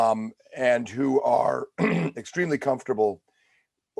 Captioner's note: clears throat